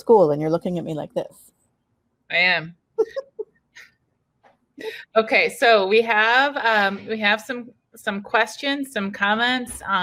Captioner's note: laughing